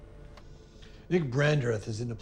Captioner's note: remote clicks